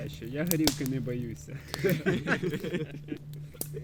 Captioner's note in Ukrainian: всі сміються